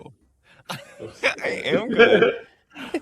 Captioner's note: laughs